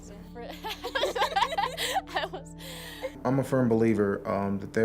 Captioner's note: laughing